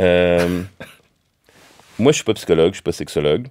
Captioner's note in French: petit rire